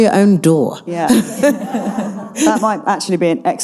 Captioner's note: audience laughing